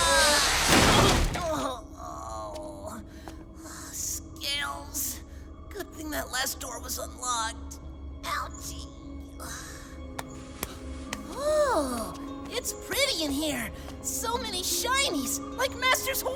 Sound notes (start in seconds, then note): 3.7 strained